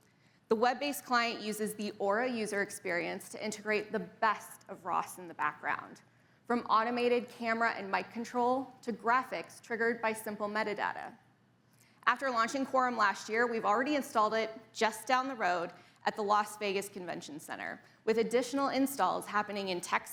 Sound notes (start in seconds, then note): none